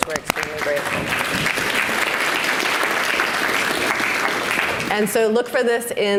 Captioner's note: audience applauds